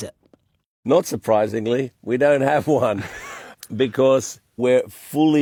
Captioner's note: laughs